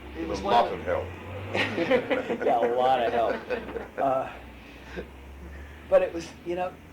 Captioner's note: laughter